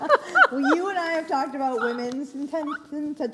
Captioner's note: laughs